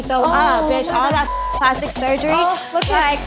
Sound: beep

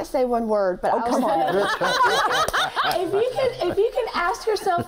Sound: laughs

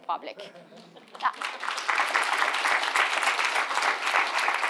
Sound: audience applauding

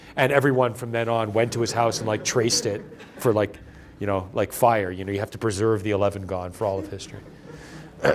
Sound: laughter; laughter

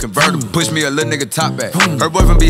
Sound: vroom

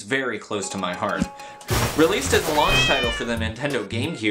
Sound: glass breaking, cat meows

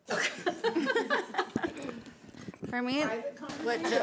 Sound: laughing

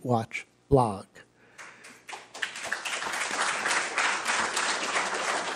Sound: applause

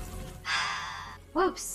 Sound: sighs

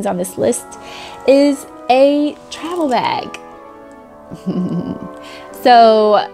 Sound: chuckles

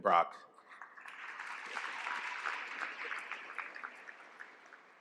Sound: applause

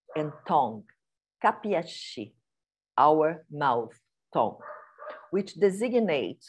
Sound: non-english speech

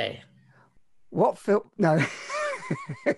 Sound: chuckles

